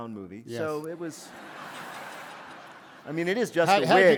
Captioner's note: laughter